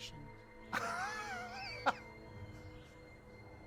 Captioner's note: laughing